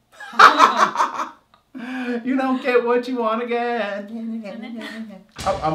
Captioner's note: laugh